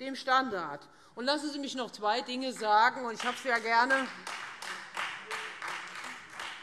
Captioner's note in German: Beifall Freie Demokraten und SPD